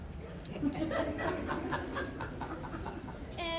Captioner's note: laughter from Audience